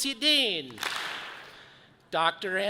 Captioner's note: audience claps